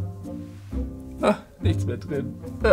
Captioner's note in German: Beschwingte Musik; Schluchzen